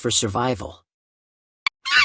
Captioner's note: sound effect